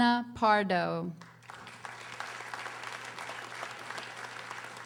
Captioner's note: audience applauding